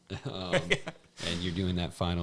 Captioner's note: laughs